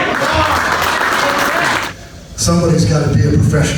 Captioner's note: audience applauds